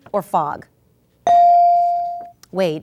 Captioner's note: ding